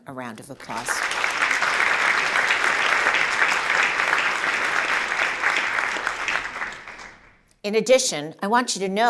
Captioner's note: applause